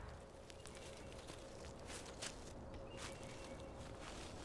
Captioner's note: leaves rustling